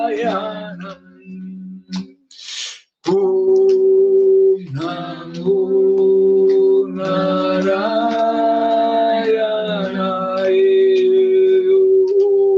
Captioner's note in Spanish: resoplido